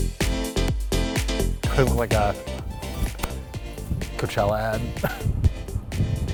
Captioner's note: upbeat music; laughs